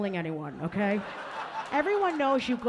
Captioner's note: audience laughing